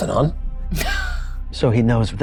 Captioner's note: chuckling